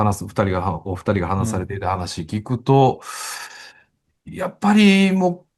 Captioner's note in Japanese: ため息